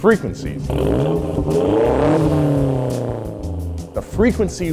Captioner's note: engine revs